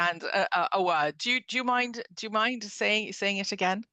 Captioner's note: speaking French